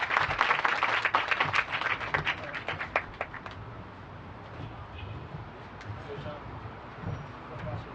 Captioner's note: applause